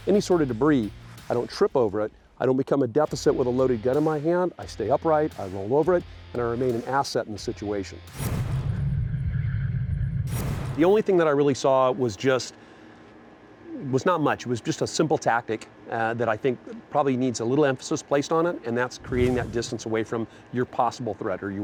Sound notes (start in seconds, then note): 8.1 whooshing; 8.2 ambient tones; 19.0 whooshing